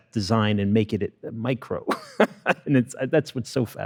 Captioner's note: laughs